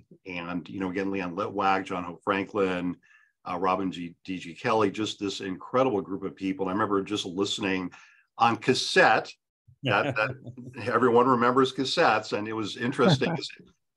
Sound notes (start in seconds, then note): 9.8 chuckles; 13.3 panelist chuckles